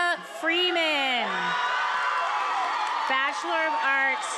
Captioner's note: attendees applauding and cheering